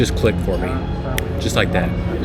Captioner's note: Thanos snap